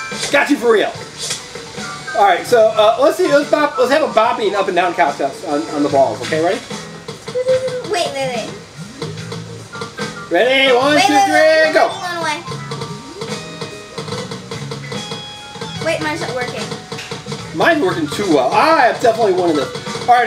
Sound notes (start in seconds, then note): 7.1 ball bouncing; 12.5 ball bouncing